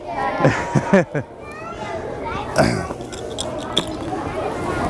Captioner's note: kids chattering